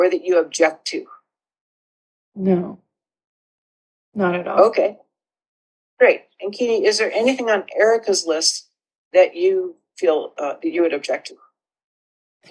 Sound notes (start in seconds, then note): 1.8 on Zoom call